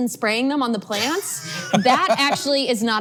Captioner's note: laughs